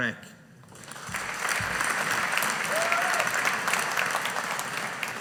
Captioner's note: audience applauding